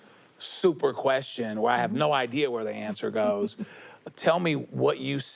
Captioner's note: chuckles